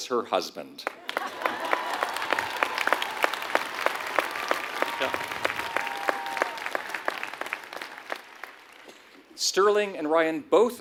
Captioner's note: applause